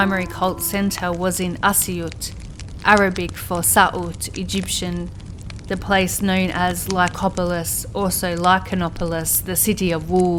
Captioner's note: Arabic